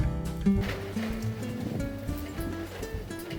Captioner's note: sound of wind